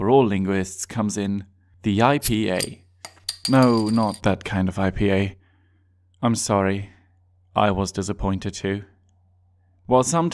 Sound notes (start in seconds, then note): 3.0 bottle opening sound